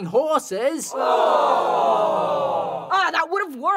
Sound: collective groan

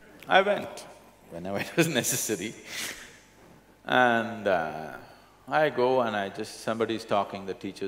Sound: laughs

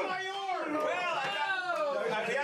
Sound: audience groans

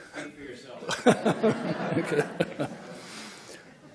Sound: laughing

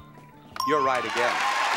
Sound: bell dings

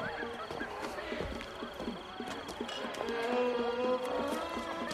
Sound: noise of party in the background

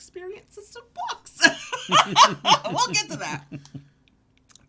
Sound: laughing

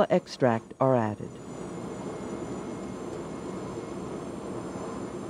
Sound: voiceover; whirring

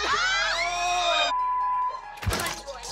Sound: yelling

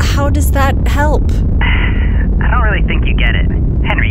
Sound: sighs; over comm

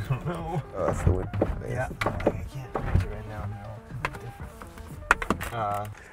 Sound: buttons clicking; guys chuckling

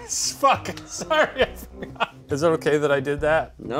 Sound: laughs

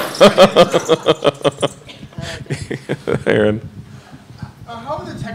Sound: laughing

